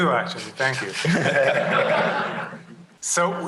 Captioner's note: laughter